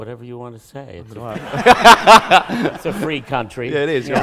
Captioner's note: laughter